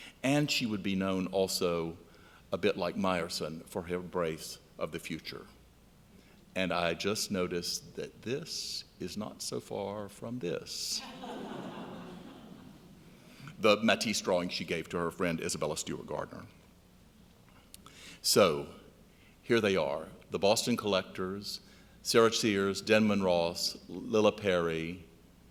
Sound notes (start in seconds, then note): 11.1 laughing